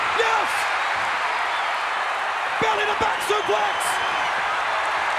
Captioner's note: applause